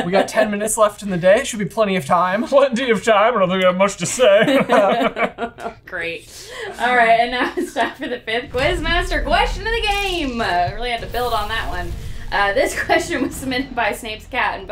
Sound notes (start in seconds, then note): 4.4 all laugh